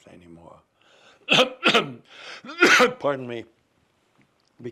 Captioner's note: coughing